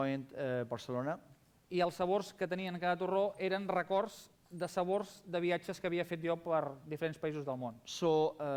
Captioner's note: non-english speech